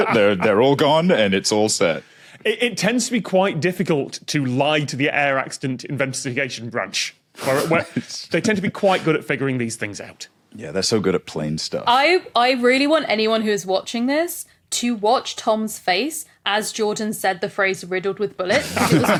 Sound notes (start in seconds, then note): 7.2 snickers